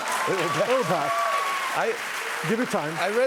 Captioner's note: cheers and applause